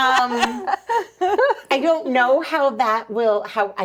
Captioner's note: laughing